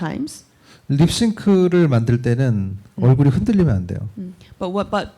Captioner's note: speaking korean